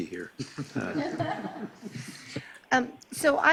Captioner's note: laughing